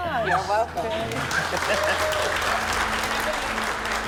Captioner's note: applause